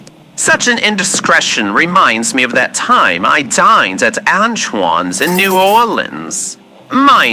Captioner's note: picks up knife fx